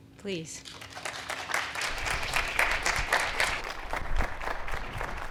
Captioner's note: audience clapping